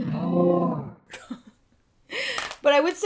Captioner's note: laughing